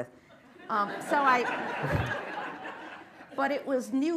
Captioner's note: laughter